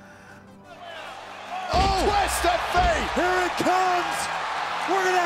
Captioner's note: applause